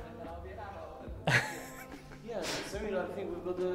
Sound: laughing

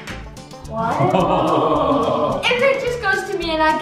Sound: laughing

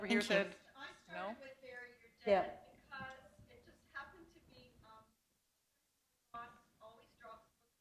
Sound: off mic

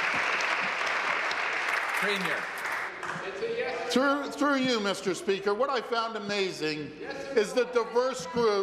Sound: applause

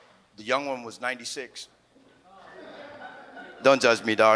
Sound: audience laughs

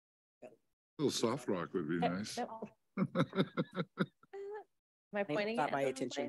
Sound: laughs

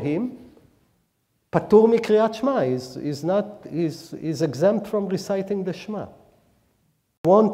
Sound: speaking hebrew

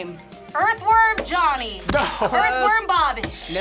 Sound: laughs

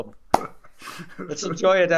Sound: laughs

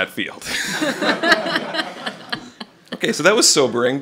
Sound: laughter

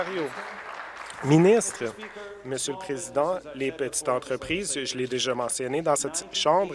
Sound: applause

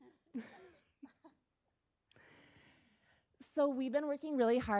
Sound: laughs

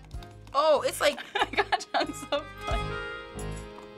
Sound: laughing

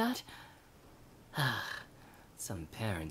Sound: sigh

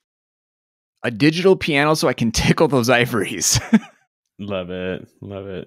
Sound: chuckles

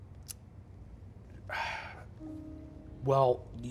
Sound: sighing

